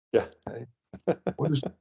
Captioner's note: laughs